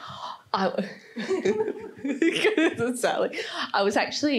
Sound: laughs

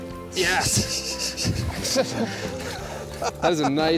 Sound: laughs

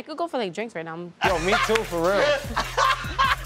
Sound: laughing

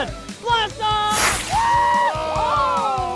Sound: rockets whirring; loud cheering

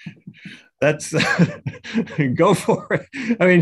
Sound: laughs

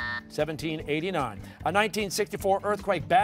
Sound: buzzer sounding

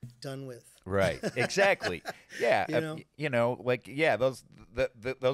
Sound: laughing

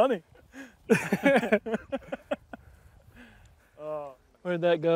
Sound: laughs

